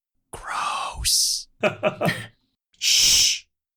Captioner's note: laughter